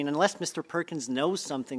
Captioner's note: speaking French